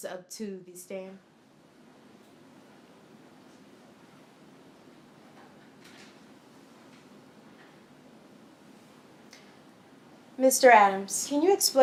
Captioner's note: no audio